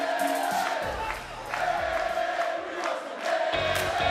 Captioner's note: fans chanting